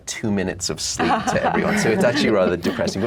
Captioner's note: everyone laughs